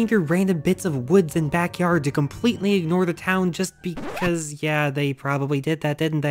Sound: record Scratch

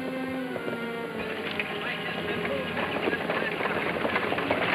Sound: people chattering

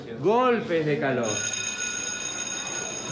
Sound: bell rings

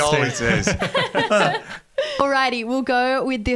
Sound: everyone laughing

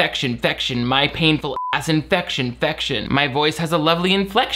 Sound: beep

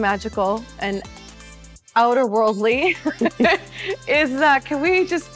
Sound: chuckling

